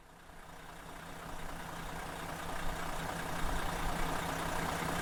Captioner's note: engine idling